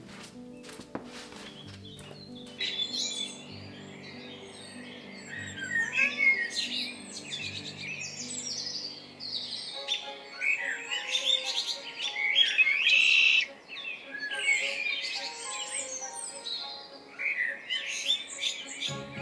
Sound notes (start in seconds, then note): 5.4 Honey Cat meows; 12.1 red winged blackbird trills